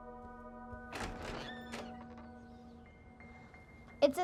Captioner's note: door clicking